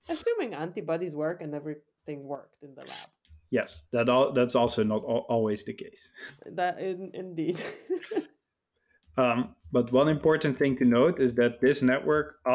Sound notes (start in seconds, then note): 7.4 laughs